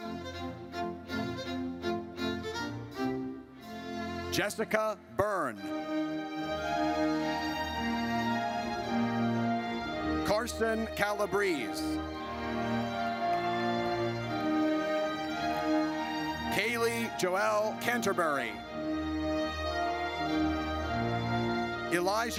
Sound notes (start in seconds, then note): 0.2 triumphant music; 6.1 triumphant music; 12.0 audience cheers; 19.1 triumphant music